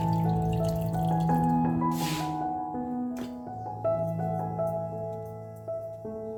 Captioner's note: 3 whistle